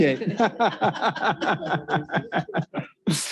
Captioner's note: laughs